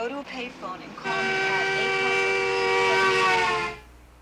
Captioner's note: horn honking